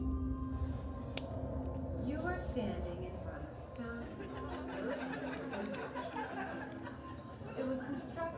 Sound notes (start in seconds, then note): 0.0 eerie music; 6.1 laughter